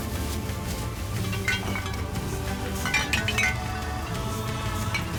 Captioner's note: glasses clinking; bags rustling; glasses clinking; glass clinking; tribal music